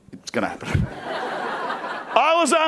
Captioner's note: crowd laughing